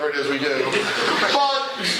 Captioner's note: laughter